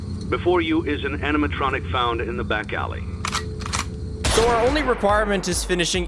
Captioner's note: gunshot sound